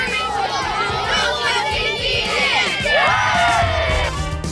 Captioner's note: cheering